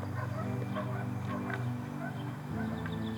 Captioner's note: dogs barking